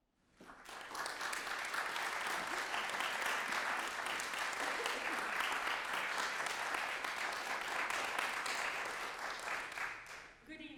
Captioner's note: applause